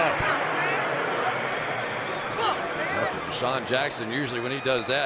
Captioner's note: pa announcement